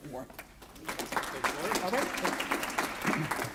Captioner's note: applause